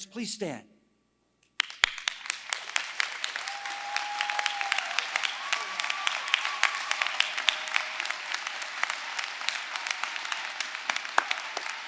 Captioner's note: applause